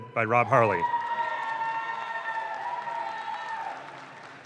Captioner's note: audience claps